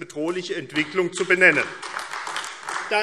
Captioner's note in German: Beifall AfD